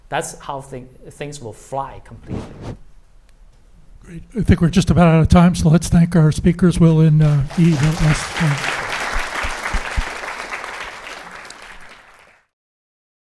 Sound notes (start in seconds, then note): 7.2 applause